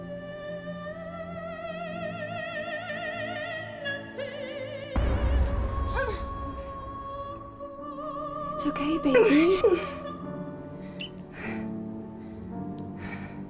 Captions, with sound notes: (Dramatic music) (Woman gasps) - It's okay, baby. (Woman whimpers)